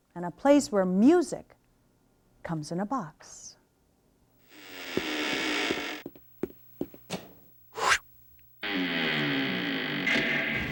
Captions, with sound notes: and a place where music comes in a box. (door creaks)